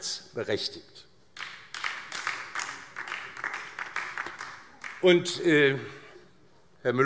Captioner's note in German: Beifall DIE LINKE